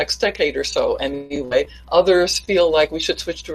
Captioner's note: distorted speech